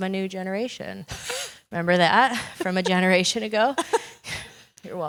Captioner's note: laugh